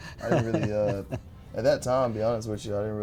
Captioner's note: laughter